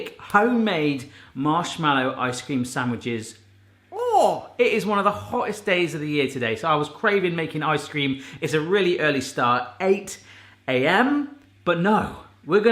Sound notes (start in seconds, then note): 3.9 yelps